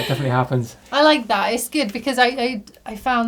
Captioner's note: laughing